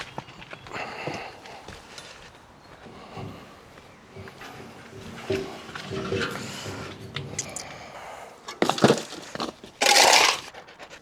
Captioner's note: drill whirring